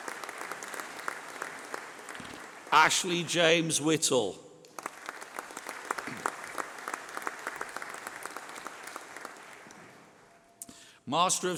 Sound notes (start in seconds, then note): 2.6 applause